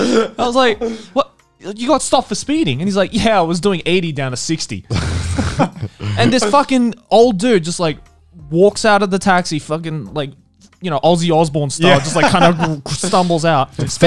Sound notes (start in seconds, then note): 0.0 laughing; 4.9 laughing; 11.9 laughing